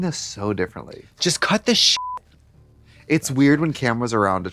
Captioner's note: beep